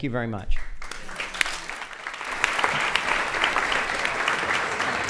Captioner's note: applause